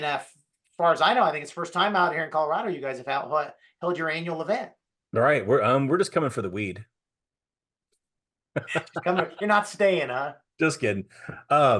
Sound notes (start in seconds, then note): 8.6 laughing